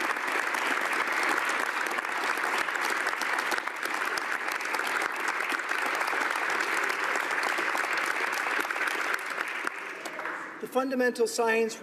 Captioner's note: applause